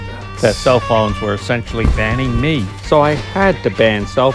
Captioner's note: podcast Voice